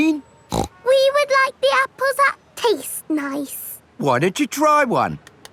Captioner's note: snorts